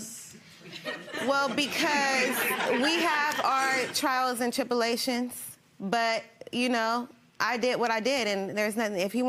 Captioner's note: audience laughing